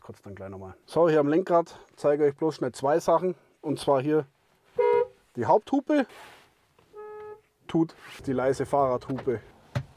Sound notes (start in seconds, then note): 4.8 honk loudly; 6.9 honk quietly